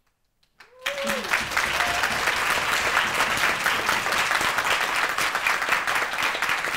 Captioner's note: audience applauding; audience cheering